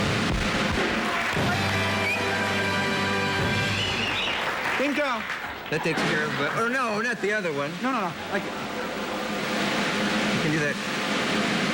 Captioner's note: applause